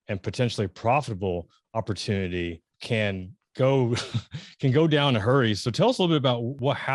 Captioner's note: laughs